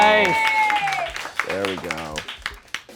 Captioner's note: crew applauds